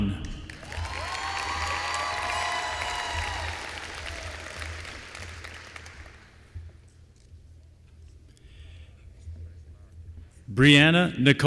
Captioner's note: applause